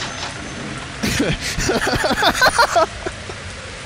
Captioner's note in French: rire